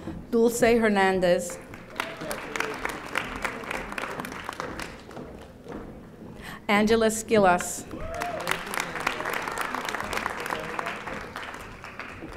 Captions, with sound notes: Dulce Hernandez. (audience applauding) Angela Skillas. (audience applauding)